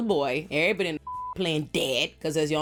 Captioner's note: beep